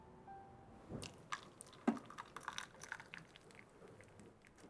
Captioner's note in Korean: 뜨거운 물 따르는 소리